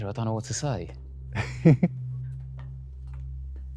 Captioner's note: laughs